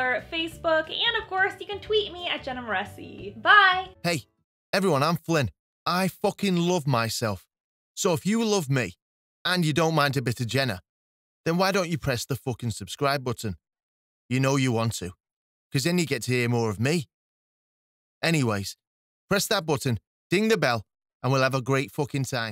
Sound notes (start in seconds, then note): 4.2 flippant Male Voice